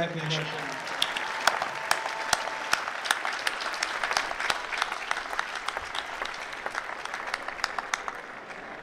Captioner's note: applause